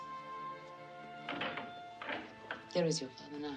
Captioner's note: door opens